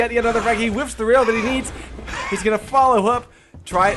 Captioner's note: other guy is mock gasping